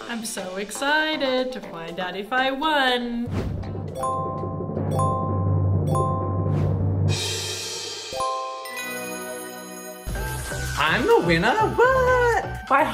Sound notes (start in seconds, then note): 3.4 drum roll; 4.4 four dings; 8.5 triumphant tune